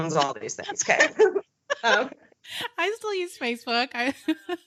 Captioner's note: laughing